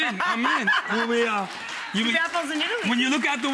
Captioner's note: laughing; audience applauding